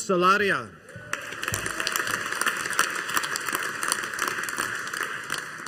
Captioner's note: audience applauding